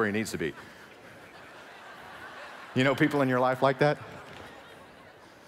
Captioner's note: laughing